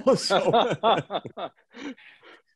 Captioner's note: laughing